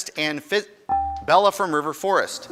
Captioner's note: buzzer dings